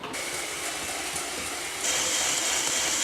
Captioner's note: hand mixer sounds